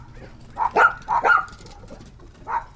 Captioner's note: dogs Barking